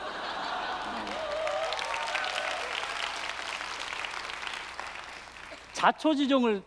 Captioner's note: applause and cheers